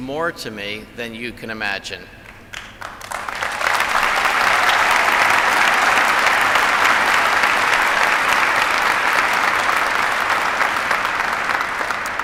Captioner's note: applause